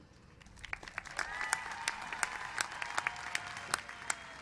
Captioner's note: applause